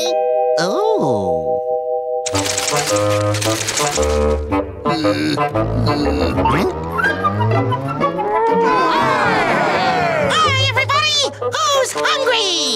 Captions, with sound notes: Oh... [groaning] Huh? [ooo-ing] Hi everybody! Who's hungry?